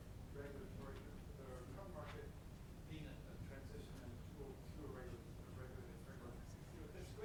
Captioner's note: speaks faintly